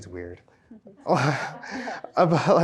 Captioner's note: laughs